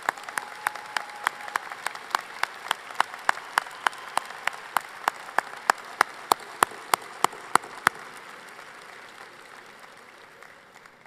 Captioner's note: applause